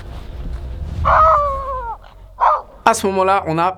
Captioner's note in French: aboiement/grognement aigu